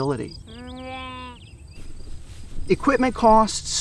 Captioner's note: sheep bleets